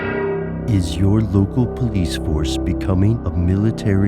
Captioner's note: voiceover